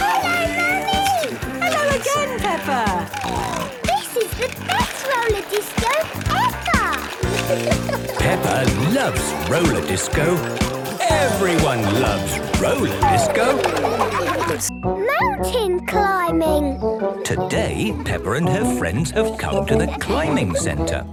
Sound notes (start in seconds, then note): 1.2 snorting; 13.0 laughter